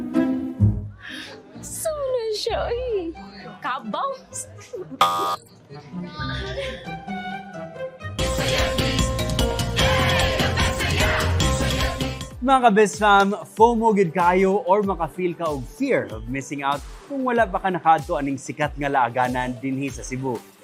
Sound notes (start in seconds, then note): 5.0 buzzer blares; 6.3 playful music continues; 8.2 theme music playing